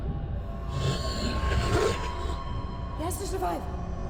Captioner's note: zombie growling